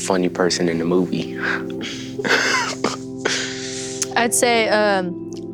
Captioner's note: laughs